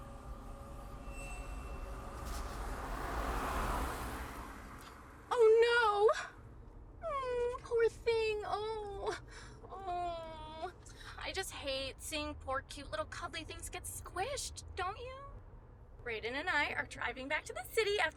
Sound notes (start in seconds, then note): 2.7 car whooshing